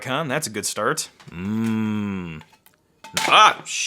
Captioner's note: moaning; CD crashing